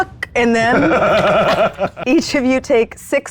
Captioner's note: cackling